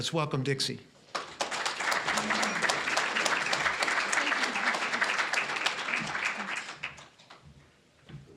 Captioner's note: applause